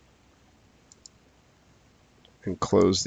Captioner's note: mouse clicking